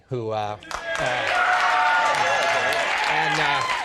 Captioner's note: audience cheering